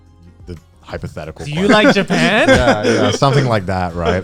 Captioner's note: guys laughing